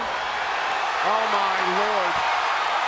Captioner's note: audience cheering